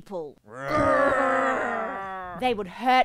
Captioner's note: angry groans